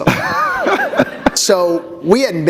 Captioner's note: laughter